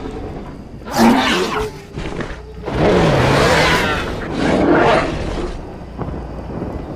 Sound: growl Sounds

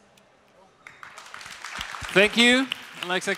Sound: applause

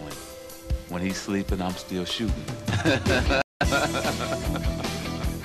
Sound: laughs

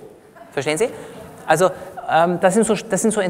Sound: laughter from the audience

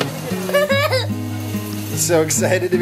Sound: playful music; child laughs

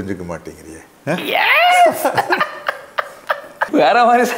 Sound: laughs

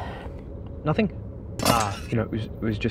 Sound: metal clangs

